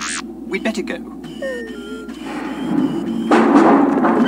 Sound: electronic beeps and buzzes; sighs; door banging and creaking

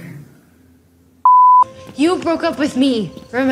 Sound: beep

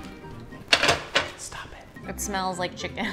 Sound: whispering

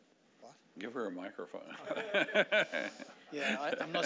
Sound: laughing

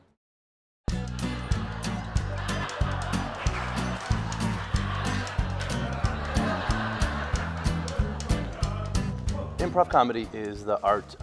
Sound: laughing

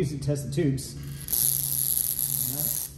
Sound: zapping

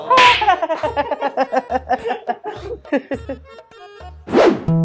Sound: laughing

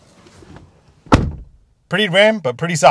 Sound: car door slamming

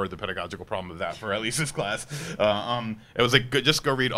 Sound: laughs

